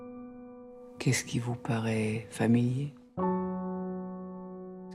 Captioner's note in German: Gespräch im Film